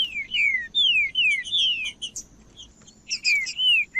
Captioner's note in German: trinca ferro cantando